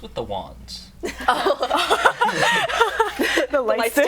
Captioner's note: laughter